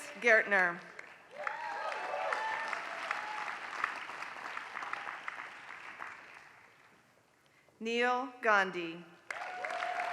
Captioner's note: applause; applause